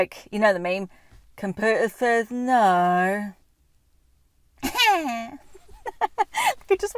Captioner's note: laughing